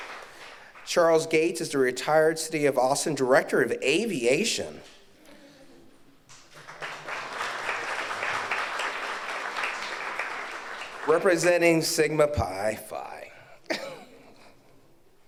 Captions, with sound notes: Charles Gates is the retired City of Austin Director of Aviation. (audience applauds) Representing Sigma Pi Phi, Aaron Henry serves